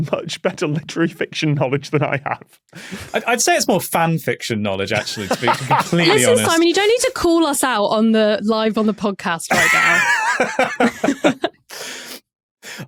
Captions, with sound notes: much better literary fiction knowledge than I have. I'd say it's more fan fiction knowledge, actually, to be completely honest. Listen, Simon, you don't need to call us out on the live, on the podcast right now. (both laughing)